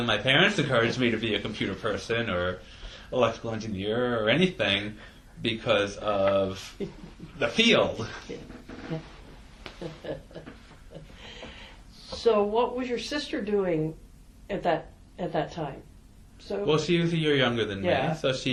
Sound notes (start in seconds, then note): 9.7 chuckles